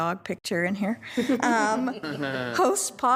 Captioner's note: attendees laughing